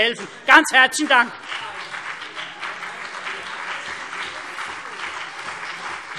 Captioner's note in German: Beifall CDU und BÜNDNIS 90/DIE GRÜNEN